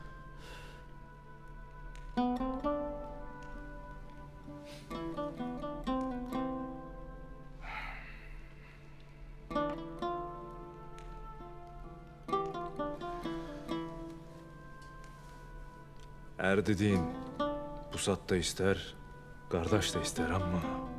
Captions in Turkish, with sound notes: (Müzik - Duygusal) (Alev sesi) Er dediğin pusat da ister kardeş de ister ama...